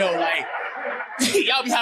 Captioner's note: audience laughing